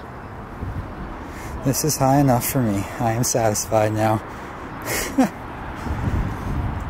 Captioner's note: nervous laugh